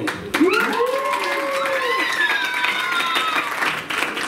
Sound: applause

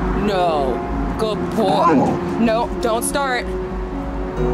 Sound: growl

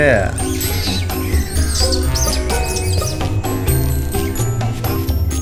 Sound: whimsical music; monkey screeches

